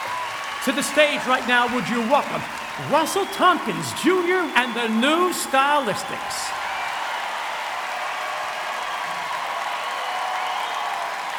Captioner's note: cheering; cheering